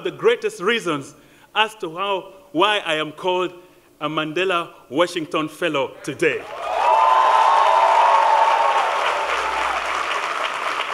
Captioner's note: applause